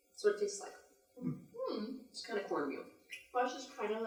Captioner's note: collective hmms